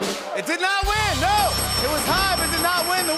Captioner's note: dinging